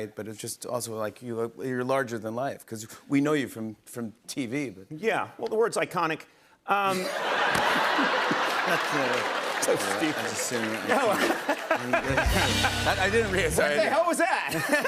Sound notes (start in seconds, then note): 6.9 laughter; 10.6 chuckles; 10.7 laughter